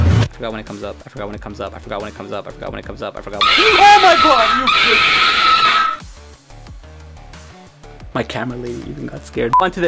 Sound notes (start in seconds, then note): 6.1 screaming